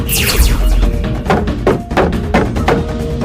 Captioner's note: lightsaber hits shield